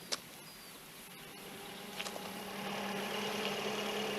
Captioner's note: car approaching